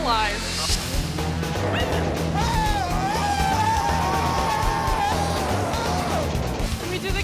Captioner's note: upbeat music; people screaming